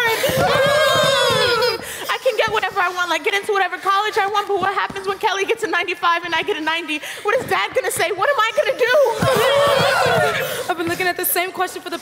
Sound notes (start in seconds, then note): 0.2 grunting; 9.4 grunting